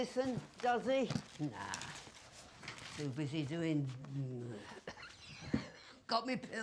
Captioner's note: coughs